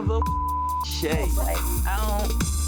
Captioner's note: beep